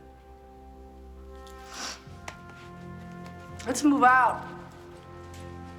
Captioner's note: sniffles